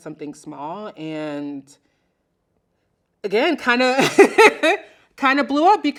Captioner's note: laughing